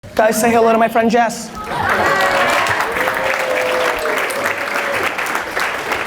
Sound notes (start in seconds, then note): 1.6 audience cheers and applause